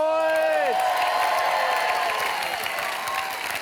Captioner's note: cheering and applause